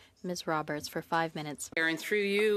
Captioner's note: speaking French